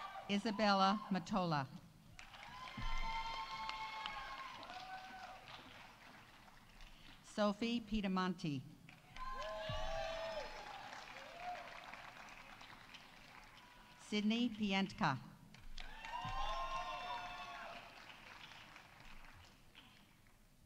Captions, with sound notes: Isabella Mottola. -(audience applauding) -(audience cheering) Sofie Pedemonti. -(audience applauding) -(audience cheering) Sydney Pientka. -(audience applauding) -(audience cheering)